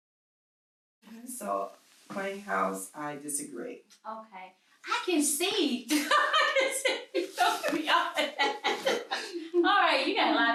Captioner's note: sudden laughing